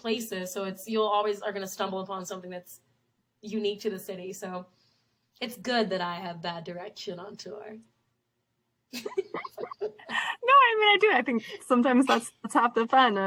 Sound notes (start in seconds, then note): 8.9 both laugh